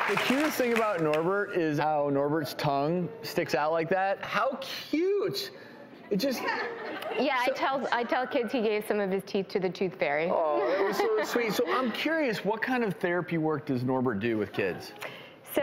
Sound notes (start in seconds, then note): 6.4 laughing